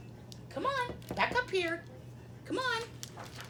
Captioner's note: pat pat